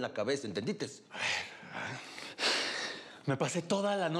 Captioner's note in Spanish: el tequita exhala